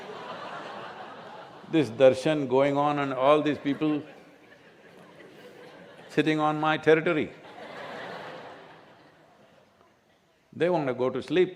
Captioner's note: laughter